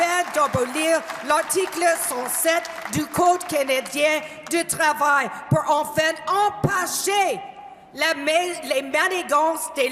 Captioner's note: cheer and applause; speaking french